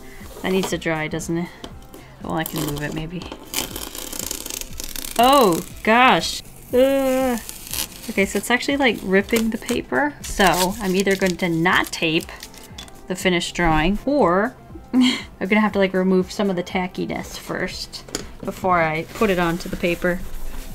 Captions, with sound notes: -- that needs to dry doesn't it... well I can move it a maybe. *the painful sound of ripping off a band-aid* Oh, gosh! Eeehhh! Okay, so it's actually like ripping the paper, so I'm either going to not tape the finished drawing or... I'm gonna have to like remove some of the tackiness first before I put it on to the paper.